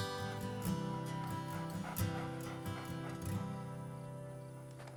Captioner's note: coyote panting